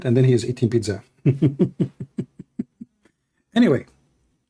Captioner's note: Ketawa